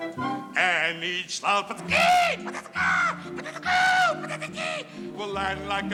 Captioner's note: squawking